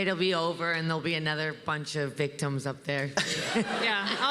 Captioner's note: laughs